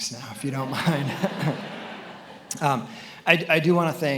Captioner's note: attendees laughing